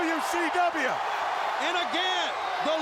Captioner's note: audience cheering